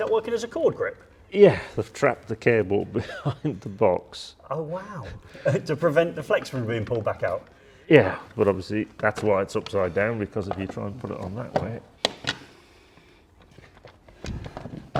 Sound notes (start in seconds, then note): 12.0 box popping